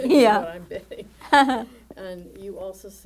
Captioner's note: laughing